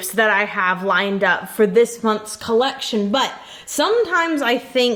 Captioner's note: none